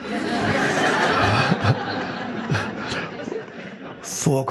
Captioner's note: audience laughing